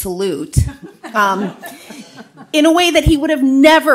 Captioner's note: audience laughs